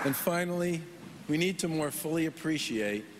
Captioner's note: applause